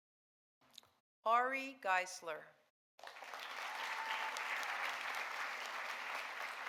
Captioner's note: audience applauding